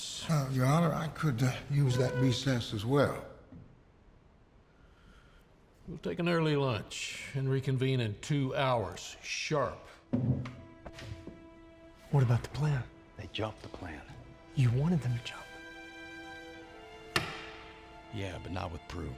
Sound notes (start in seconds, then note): 16.8 wedding ring clatters